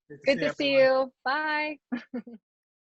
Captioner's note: laughs